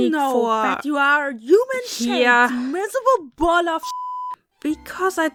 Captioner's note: peep